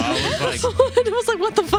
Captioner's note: laughing